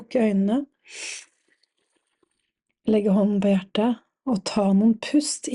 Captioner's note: sniffs